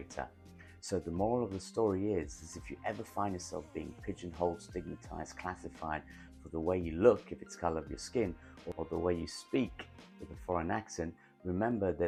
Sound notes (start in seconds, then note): 9.9 with a foreign accent